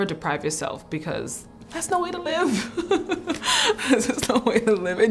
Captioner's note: laughs